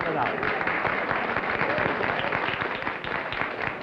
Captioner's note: applause